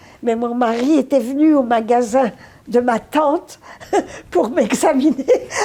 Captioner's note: laughing